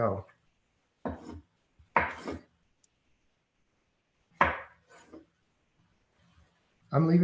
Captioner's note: silence